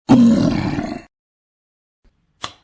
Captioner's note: troll Growling